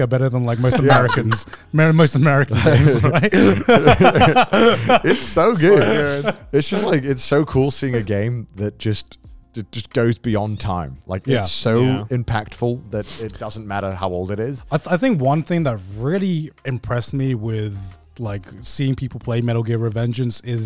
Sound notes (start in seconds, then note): 2.4 all laughing